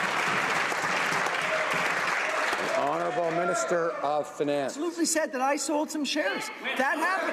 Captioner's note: some Applause